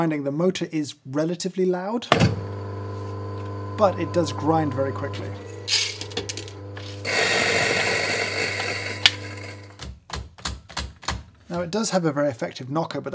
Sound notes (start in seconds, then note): 2.4 motor humming; 7.5 motor grinding